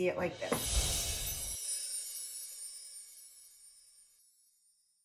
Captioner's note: windchimes ring